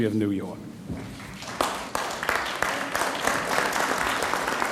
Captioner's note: audience applauds